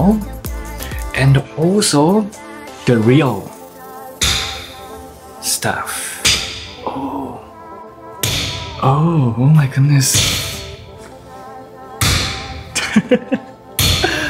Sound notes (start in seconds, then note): 10.1 loud hammer pounding; 12.7 laughs